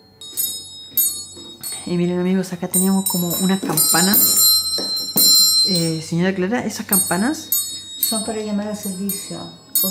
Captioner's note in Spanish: Sonido de campanas